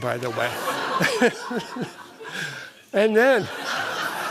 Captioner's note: laughter